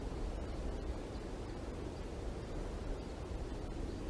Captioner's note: soft wind